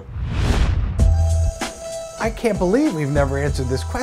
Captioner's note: swoosh / music plays